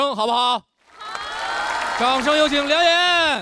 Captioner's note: audience agrees